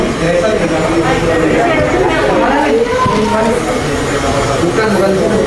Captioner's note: distant chattering